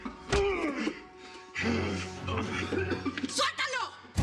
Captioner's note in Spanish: quejidos; golpes